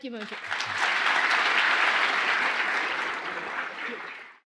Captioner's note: applause